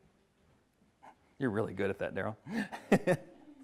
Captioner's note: laughs